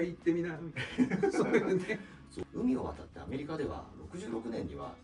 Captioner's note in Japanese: 笑い